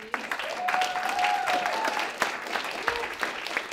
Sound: applause

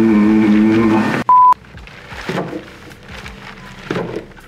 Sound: beep

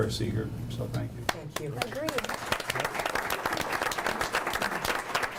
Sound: group applauds

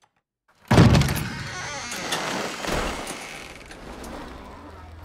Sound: door squeaking

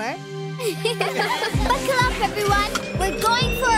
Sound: laughing

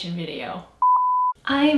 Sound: beep

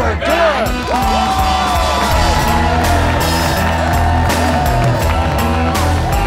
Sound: cheering; rock music

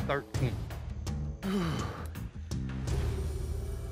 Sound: groans

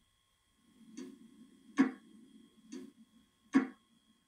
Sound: clock ticking

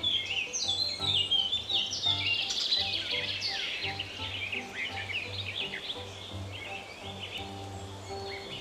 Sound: birds sing

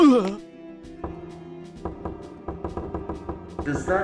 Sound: knock Knock

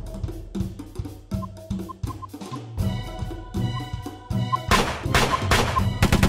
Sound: beeping sounds

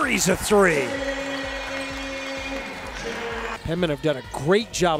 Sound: cheering

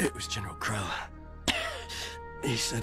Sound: coughing

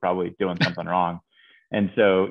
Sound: chuckles

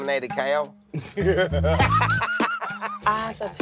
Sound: laugh

